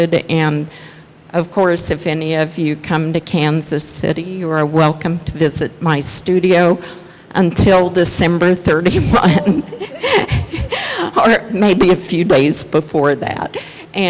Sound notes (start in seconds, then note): 8.8 laughs